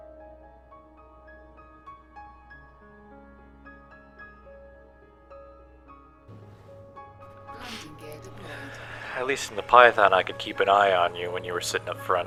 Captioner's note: sigh